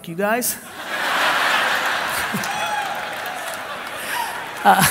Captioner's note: laughing